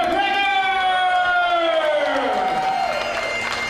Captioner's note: cheering